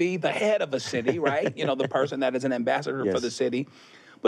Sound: laughs

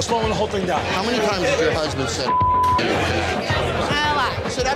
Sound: beep

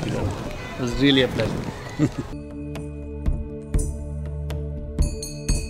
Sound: Sadhguru laughs

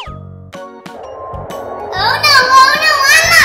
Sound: slide whistle whistling; jets flying

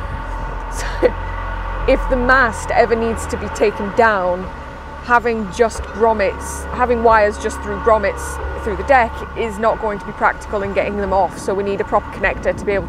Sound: loud, Groaning, Metal Scraping Noise

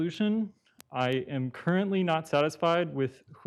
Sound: audio cutting in and out

